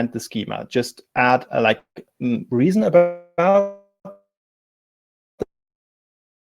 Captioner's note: distortion muffles speaker